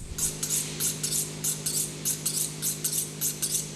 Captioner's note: metal scraping